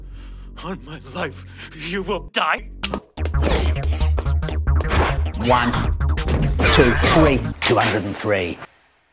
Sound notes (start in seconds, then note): 3.6 combat sounds